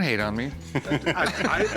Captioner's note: laughter